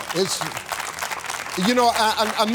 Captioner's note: applause